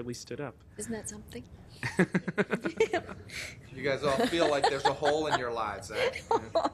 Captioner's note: laughing